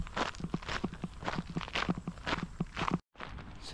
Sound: gravel crunching

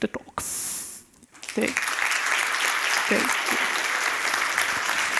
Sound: applause

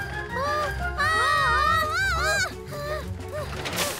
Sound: both screaming

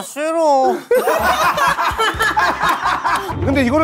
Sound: burst out in laughter

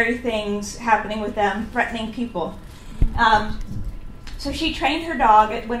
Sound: audience member whispers "Geez, Louise!"

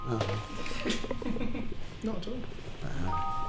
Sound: laughter

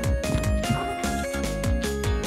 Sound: cat chirps with mighty effort

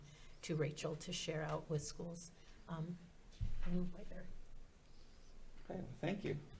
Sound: faintly speaking

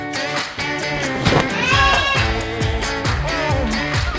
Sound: energetic music; fabric flapping; child screams; energetic music

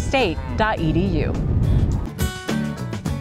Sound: wind blows; cow moos; upbeat music

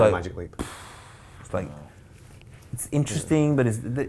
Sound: sighing

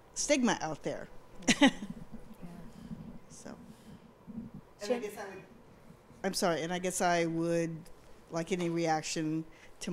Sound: chuckles

